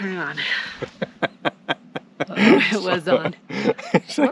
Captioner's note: laughing